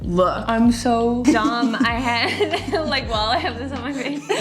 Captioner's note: laughs